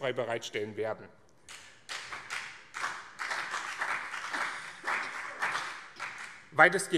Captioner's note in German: Beifall BÜNDNIS 90/DIE GRÜNEN und CDU